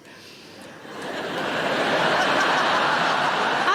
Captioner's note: audience laughing